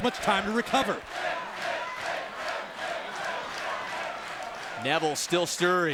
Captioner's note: crowd chants "Finn"